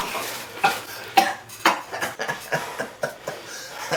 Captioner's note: Larry laughing